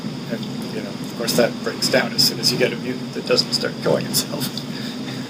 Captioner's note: chuckles